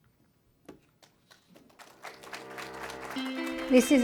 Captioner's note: music and applause